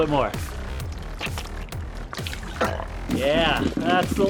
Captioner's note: burps